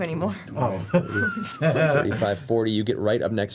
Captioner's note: laughs